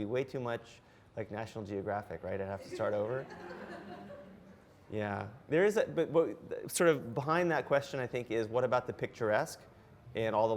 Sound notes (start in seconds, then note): 2.7 audience laughs